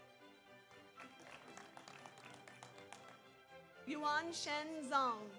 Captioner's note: audience applauds